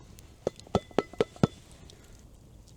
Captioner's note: metal clanging